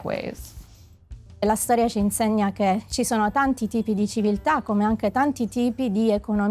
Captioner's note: speaking in foreign language